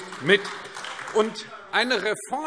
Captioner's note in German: Beifall AfD